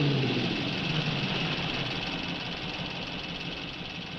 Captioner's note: engines idling